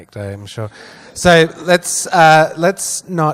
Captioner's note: laughs